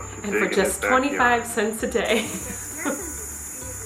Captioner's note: chuckles softly